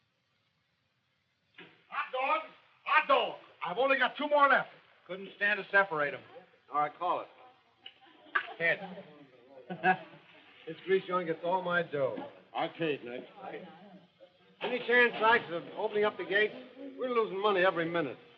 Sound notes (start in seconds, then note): 1.3 door shuts; 7.6 slap; 9.6 laughs